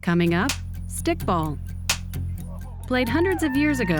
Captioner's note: sticks clap; claps